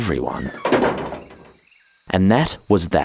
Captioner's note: door closes